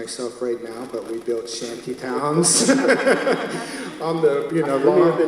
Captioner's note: laughs